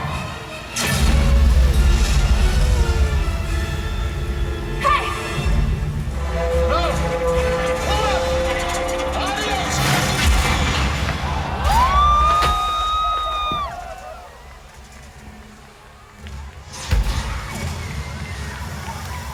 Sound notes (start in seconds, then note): 0.7 electric sound and explosion; 2.8 dramatic music; 9.4 crashing sound; 10.8 crowd gasping and wooping; 15.0 sizzling flames